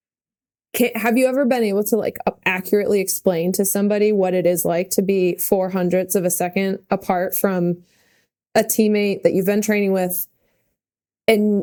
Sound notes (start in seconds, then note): none